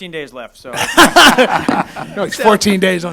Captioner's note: laughing